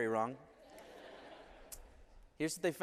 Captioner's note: laughter